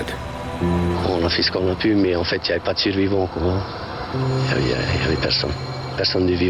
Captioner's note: speaking in foreign language